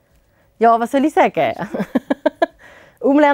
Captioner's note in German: lacht